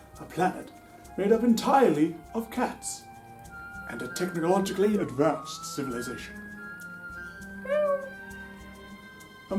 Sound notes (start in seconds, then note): 7.6 meow